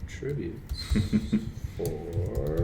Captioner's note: laughs